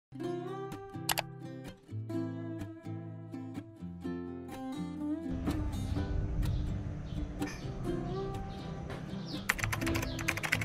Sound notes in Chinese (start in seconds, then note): 6.4 鸟儿在背景鸣叫